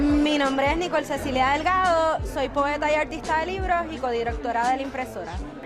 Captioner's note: speaks in foreign language